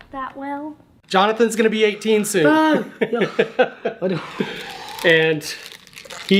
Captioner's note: laughing